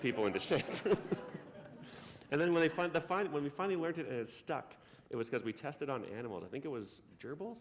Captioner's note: laughter